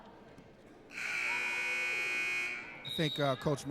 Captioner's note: buzzer sounding